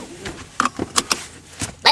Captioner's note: buckles clicking